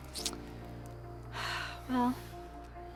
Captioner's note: sighs